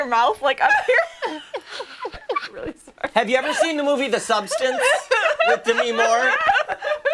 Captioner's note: laughter